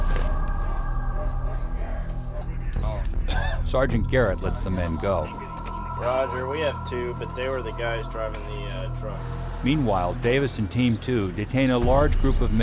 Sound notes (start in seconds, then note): 5.9 marine on radio; 9.5 voiceover